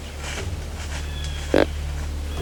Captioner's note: sound of grunt